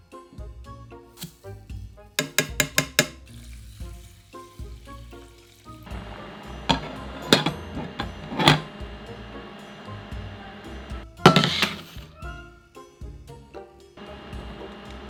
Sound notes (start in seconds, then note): 0.5 quinoa dropping; 3.2 liquid pouring; 5.6 burner humming